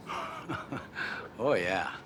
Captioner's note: chuckles